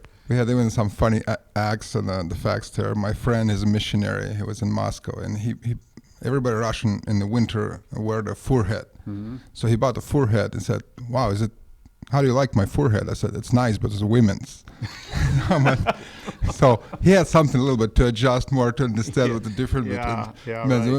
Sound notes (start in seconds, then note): 14.7 laughs